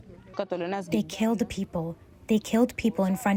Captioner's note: through translator